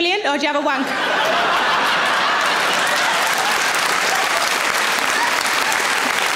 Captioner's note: audience laughing; audience applauds